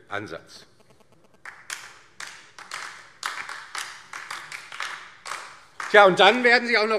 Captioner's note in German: Beifall DIE LINKE